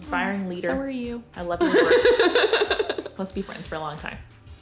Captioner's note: laughs